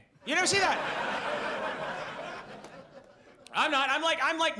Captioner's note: audience laughs